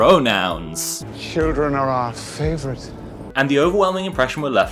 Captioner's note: doppler creep